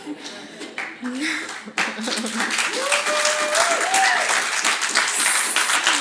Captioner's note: audience cheers and applauds